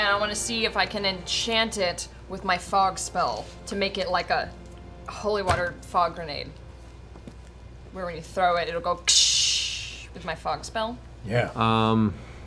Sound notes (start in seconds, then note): 8.6 shatters